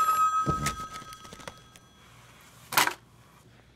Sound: phone ringing

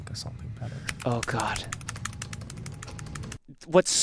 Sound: keyboard clacking

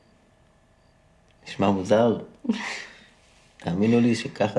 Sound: chuckles

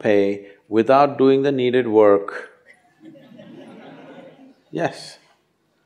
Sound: few Laugh

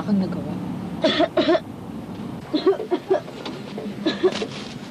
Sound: coughing continues

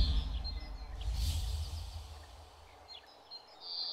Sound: birds chirping

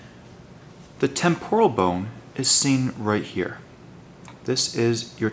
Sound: voiceover

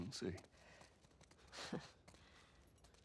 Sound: laugh

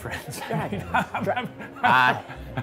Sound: laughing

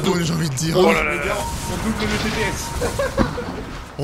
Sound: laughs

